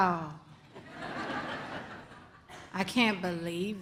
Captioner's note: audience laughs